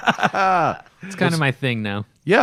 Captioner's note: laughter